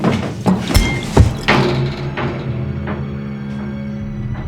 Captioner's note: ominous music; bottle thuds